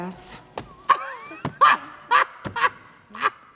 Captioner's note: Trixie laughs